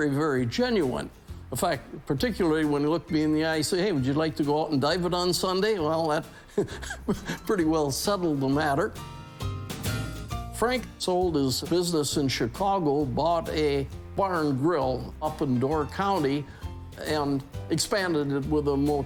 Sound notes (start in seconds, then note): 6.4 chuckles